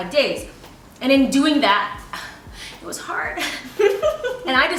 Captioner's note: Amy Laughing